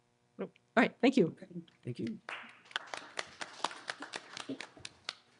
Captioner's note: applause